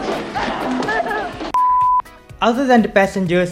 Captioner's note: beep